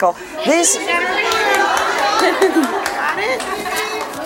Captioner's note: audience yells